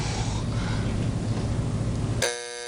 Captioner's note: buzzer sounds